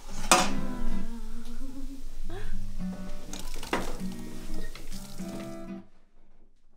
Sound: chemical reaction, spilling sound

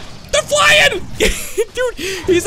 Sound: laughs

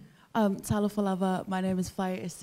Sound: speaking in foreign language

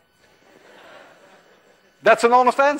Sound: class laughs

